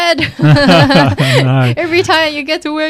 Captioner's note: laughing